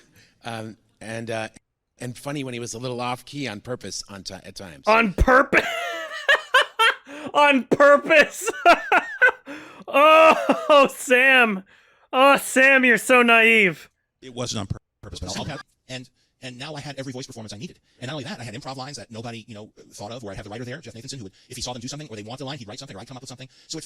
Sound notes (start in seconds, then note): 5.4 wheezes, laughs; 9.6 laughs some more